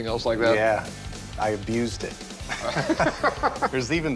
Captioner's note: laughter